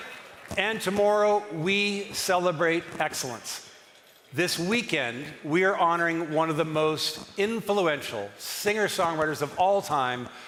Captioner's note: cheering and applause